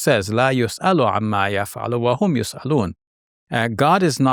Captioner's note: speaking Arabic